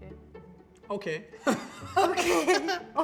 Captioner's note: laughter